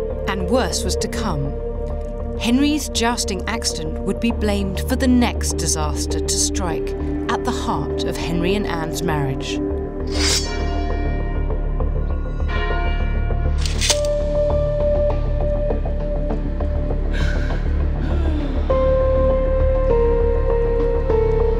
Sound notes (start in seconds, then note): 10.0 sword unsheathes; 10.2 bell tolls; 13.6 sword clinks; 17.1 Anne whimpers and sobs